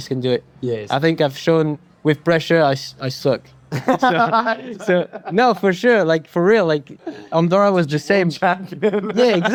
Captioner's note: laughs